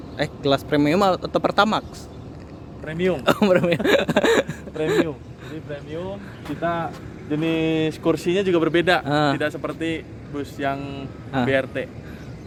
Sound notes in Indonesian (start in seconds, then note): 3.2 hahahahaha